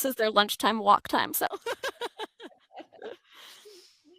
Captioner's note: laughter